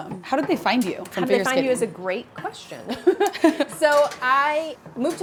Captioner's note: chuckles